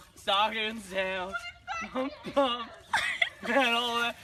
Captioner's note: person laughing